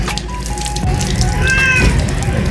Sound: Mapa Meowing

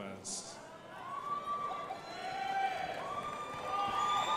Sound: crowd applauding

